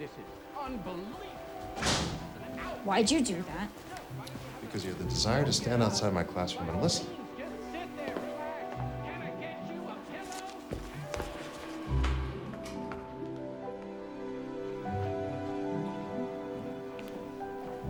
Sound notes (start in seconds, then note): 1.7 door slams; 12.0 gentle music